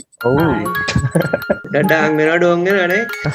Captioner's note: laughs